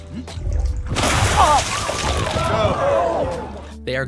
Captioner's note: Typical Tom Hardy noises